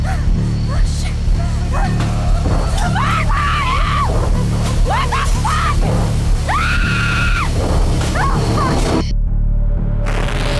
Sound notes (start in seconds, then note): 1.8 Mark maniacal, distorted laughing; 3.8 glass and wood breaking, falling inside house; 6.4 Stephanie screaming uncontrollably; 10.0 static crescendo, abrupt stop